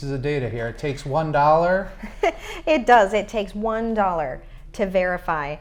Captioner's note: chuckles